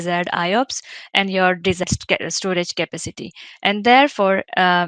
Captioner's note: audio distorting